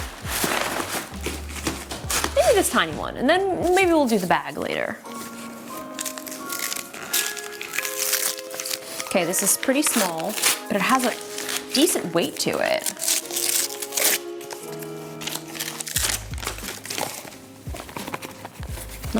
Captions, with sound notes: (wrapper crinkling) Maybe this tiny one, and then maybe we'll do the bag later. (whimsical music) Okay, this is pretty small, but it has a decent weight to it.